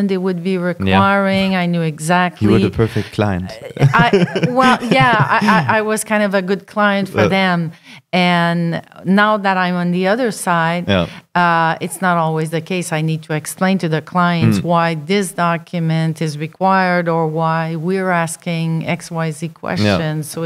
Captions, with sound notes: they would be requiring, I knew exactly. - Yeah, you were the perfect client. (laughing) - Well yeah, I was kind of a good client for them. And now that I'm on the other side, it's not always the case. - Yeah, mmhmm. - I need to explain to the clients why this document is required, or why were asking x, y, z questions.